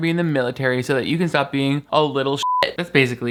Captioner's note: beep